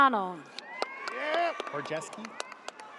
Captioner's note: audience cheers